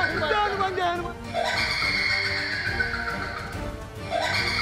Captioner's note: maniacal laugh